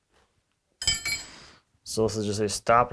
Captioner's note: metal clanging